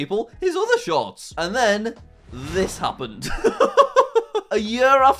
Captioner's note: laughing